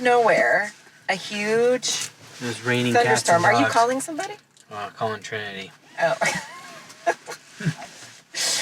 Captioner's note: laughing